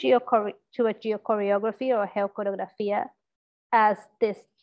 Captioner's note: speaks in a foreign language